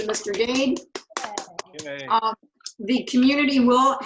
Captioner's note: group applauding